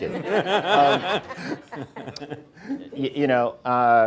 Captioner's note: everyone laughing